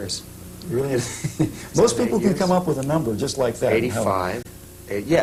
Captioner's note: laughing